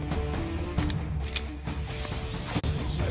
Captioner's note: Gun loading